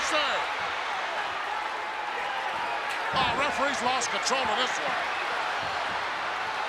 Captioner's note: applause